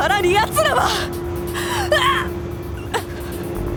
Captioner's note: pained wince